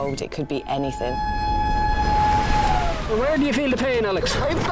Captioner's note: siren wailing